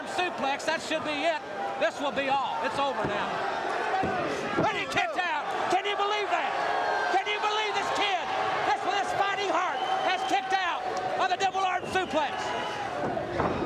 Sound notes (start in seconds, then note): 5.1 crowd chatter